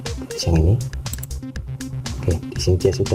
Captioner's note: click